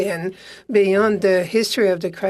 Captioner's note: speaking French